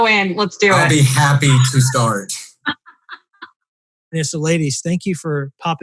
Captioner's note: laughing